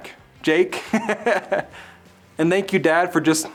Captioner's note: laughs